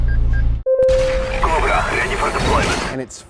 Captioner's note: beeping; electronic Voice